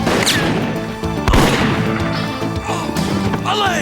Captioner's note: groan